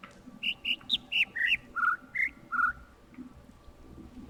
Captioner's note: overlapping birds chirping, ˥ ˥ ˩ ˧ ˩